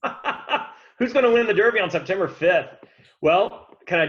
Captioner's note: laughs